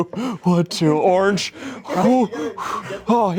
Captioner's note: pants